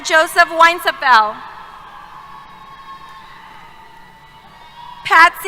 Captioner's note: cheers